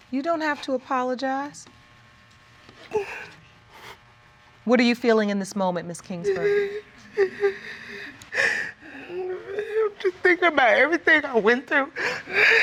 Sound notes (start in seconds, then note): 2.9 whimpers